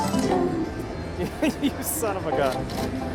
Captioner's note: laughs